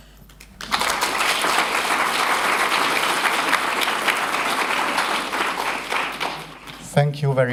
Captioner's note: applause